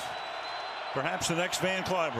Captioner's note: cheering